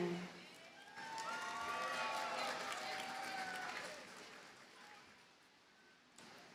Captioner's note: audience cheers and applauds